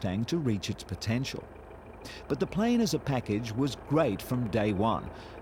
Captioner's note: engine roaring